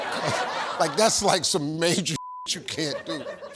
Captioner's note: beep